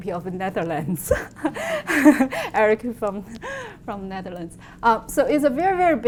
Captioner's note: laughs